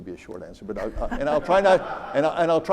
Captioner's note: audience laughs